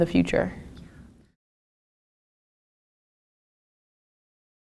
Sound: silence

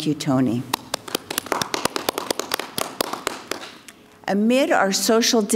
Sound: crowd clapping

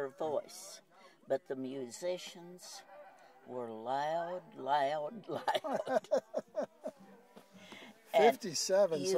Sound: laughs

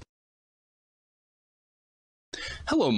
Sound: silence

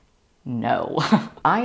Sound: laughing

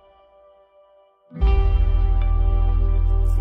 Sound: none

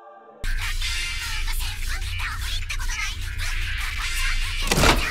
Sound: foreign language

